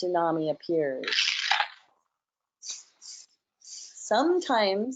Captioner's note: cranking